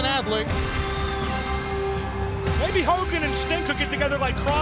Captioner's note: crowd cheering